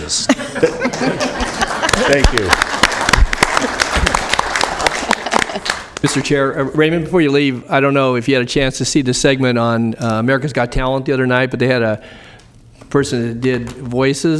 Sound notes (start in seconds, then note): 7.0 applause